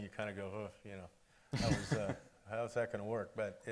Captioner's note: laughing